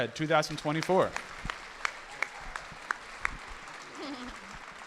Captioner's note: audience applauding